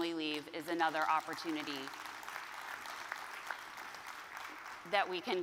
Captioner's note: audience claps